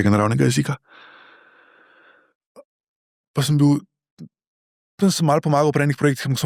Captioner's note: sigh